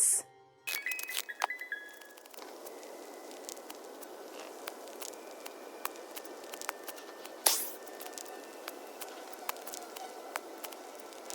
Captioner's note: cards being played